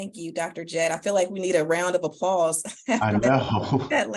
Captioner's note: laughs